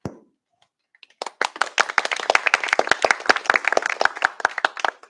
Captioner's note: applause